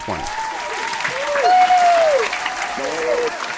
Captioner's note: cheering